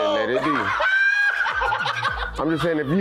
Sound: laughing hysterically

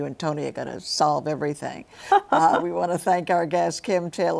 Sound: laughs

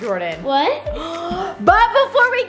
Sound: gasps

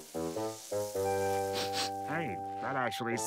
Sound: sniffing

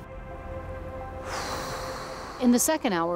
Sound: sighs

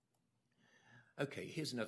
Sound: none

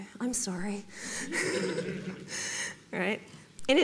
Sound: audience laughs

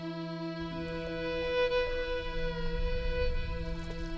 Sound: water burbling

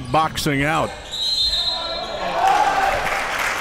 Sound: whistle blows; cheering

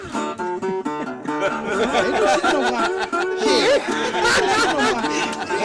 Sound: laughter

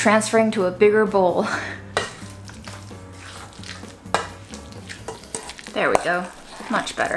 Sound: chuckles; food squishing

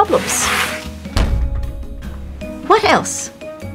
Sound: book slams

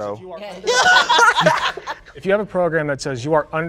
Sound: group laughing

